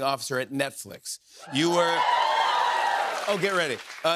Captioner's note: cheers and applause